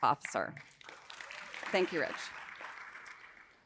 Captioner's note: audience applauding